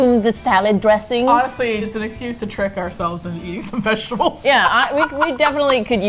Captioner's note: laughs